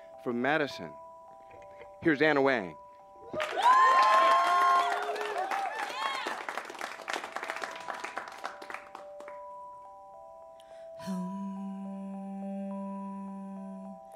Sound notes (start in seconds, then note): 3.3 cheers and applause; 8.8 soft bell-sounding electronic notes